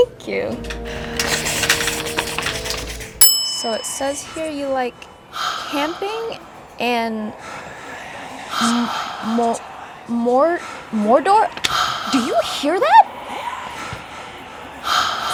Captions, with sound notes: - Thank you. (Hannibal gasps) (bell dings) So it says here you like camping and mo-mor-Mordor? (ghostly breathing) Do you hear that?